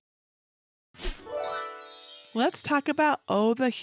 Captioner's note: stars twinkling